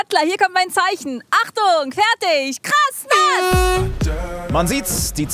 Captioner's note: Startsignal